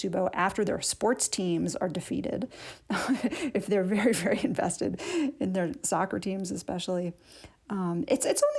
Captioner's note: laughter